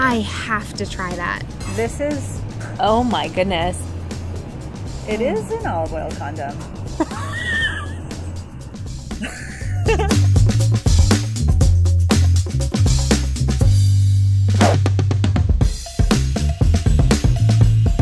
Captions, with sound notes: - I have to try that. - This is... - Oh my goodness. It is an olive oil condom. (laughing) (upbeat music) (air whooshing) (upbeat music)